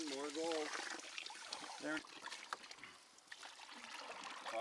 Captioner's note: water splashing